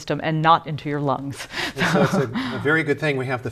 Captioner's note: laughter